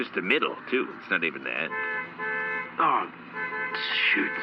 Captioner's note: aggressive horn honking